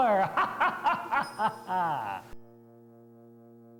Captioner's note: laughs maniacally